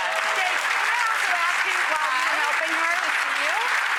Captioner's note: audience claps